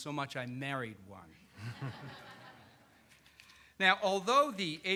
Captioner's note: all laughing